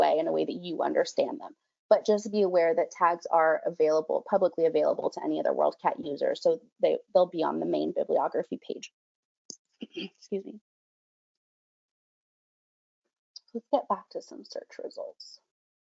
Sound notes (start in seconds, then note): 9.8 clears throat